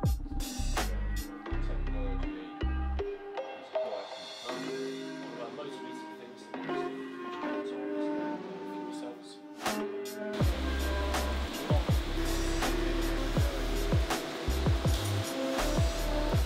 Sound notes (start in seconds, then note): 0.3 lively music continues; 10.4 machines whirring; 10.6 lively music continues